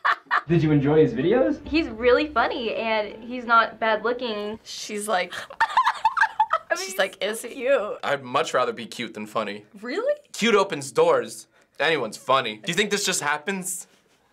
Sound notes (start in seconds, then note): 5.2 laughs